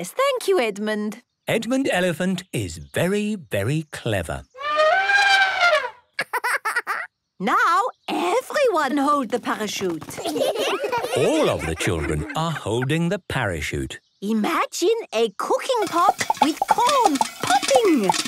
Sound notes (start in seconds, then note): 3.3 laughing; 4.5 trumpeting; 10.1 laughter